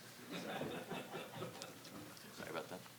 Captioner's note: audience chuckling